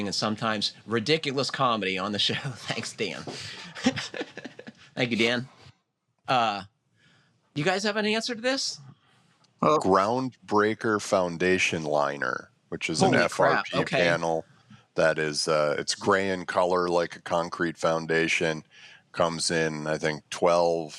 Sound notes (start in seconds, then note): 3.2 laughs